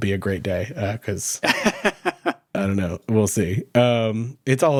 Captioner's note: laughing